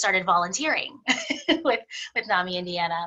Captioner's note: laughs